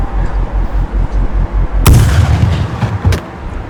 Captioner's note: gunshot